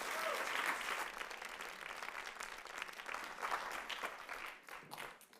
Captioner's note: audience applauds